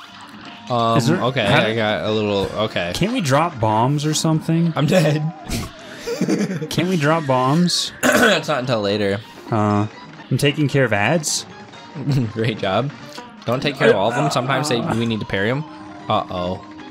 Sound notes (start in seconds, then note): 5.9 laughs; 12.3 snicker; 14.1 weird moaning